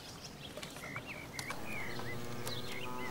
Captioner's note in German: Idyllisches Vogelgezwitscher